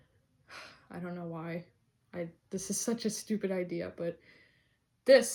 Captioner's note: sighs